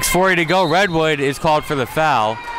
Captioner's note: referee blows whistle